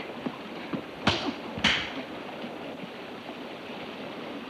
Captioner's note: hand smacks